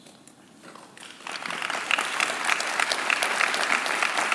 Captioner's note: claps